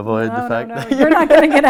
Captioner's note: laughs